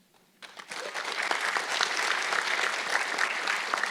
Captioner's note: audience clapping